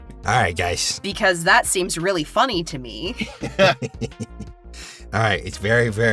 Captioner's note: chuckles